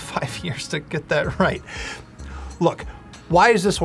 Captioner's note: laughing